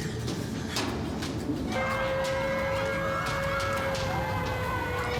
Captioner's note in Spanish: ruidos al avanzar; griterío